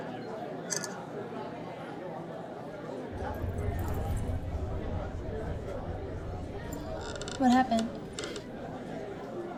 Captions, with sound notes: (camera clicking) - What happened?